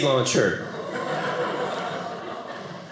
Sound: audience laughing

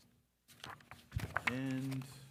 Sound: paper rustling

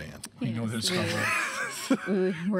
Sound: laughing

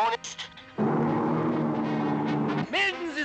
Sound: plane engines roaring

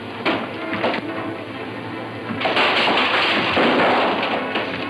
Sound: bottle clatters

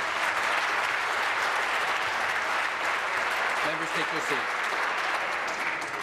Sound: applause

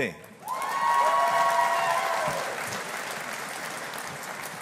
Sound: audience applauding

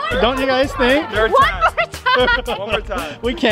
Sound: laughs

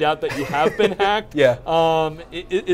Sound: laughs

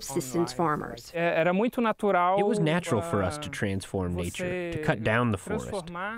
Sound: through translator

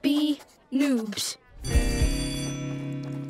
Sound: bell ringing

